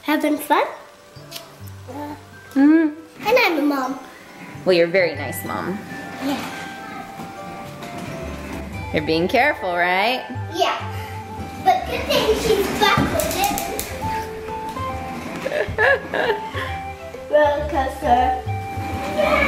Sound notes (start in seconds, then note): 1.9 grunts; 7.1 playful music; 15.4 laughs